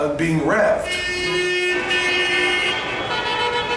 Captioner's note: traffic noise